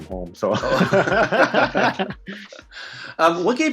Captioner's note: laughs